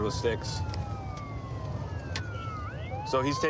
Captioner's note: sirens wailing